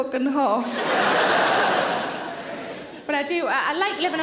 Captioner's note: audience laughter